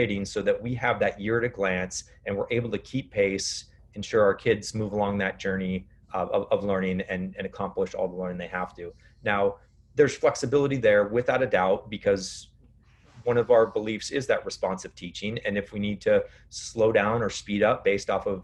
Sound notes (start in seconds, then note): none